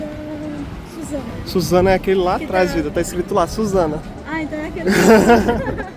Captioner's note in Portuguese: risadas